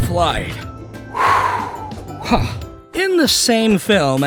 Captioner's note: exhale